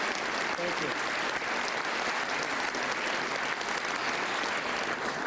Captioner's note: applause